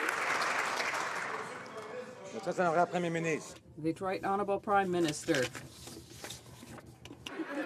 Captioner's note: some Applause